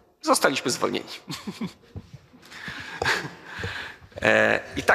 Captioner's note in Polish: śmiech